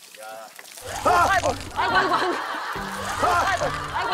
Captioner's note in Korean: 찌익